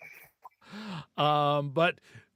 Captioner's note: laughing